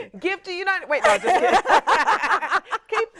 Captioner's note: laughs